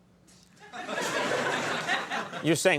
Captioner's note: audience laughing